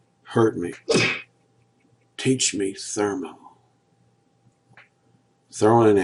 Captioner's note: whip sound